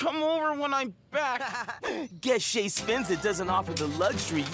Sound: laughing

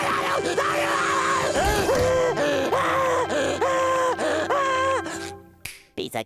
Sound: screaming; heavy panting

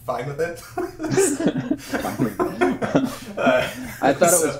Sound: laughing

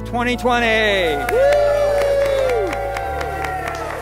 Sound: cheering

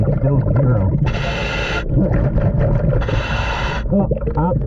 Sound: water bubbling; mouthpiece hissing

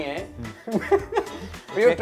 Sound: laughs

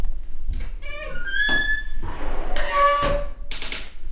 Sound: door creaks

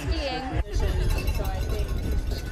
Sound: nats cowbell and cheers

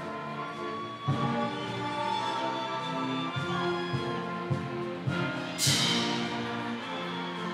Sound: audience cheering continues

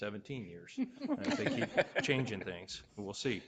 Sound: all laughing

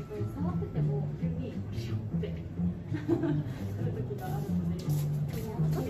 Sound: laughs

